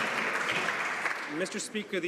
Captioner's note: some Applause